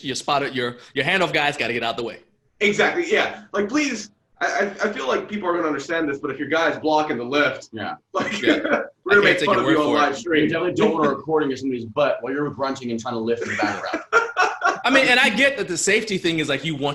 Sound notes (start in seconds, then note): 8.1 laughs; 13.4 laughter